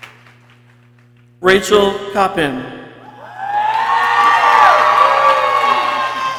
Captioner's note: people cheering